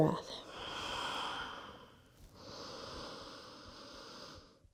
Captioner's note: inhaling and exhaling